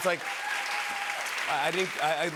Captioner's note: cheers and applause